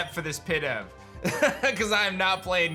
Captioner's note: chuckles